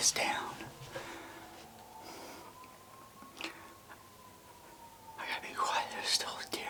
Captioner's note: whispering